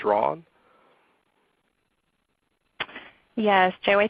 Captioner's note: silence